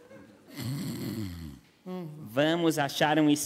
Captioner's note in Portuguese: ronco